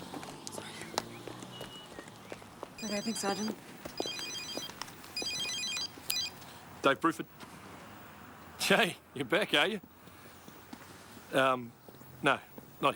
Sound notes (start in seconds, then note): 2.8 woman chattering; 3.9 phone ringing